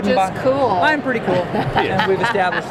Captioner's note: laughter